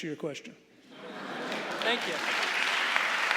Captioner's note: audience laughing and applauding